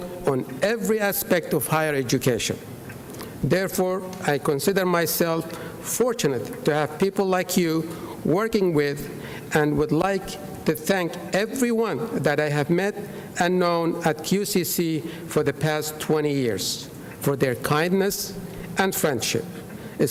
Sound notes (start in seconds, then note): none